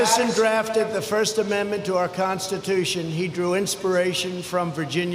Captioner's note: applause